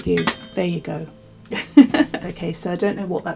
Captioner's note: laughs